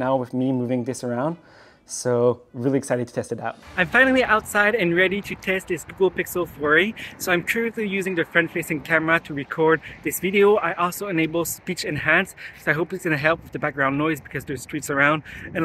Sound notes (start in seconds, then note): 3.6 air whooshing